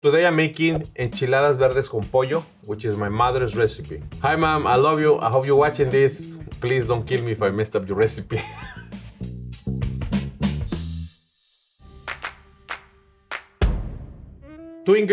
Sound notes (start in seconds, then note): 8.2 laughs; 9.4 upbeat music; 12.1 light music